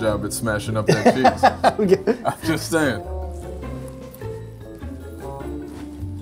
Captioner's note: laughs